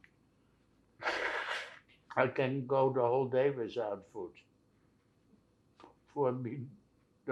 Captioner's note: wiping nose